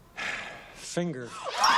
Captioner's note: sighs; cheering